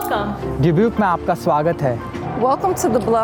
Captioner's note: speaking in foreign language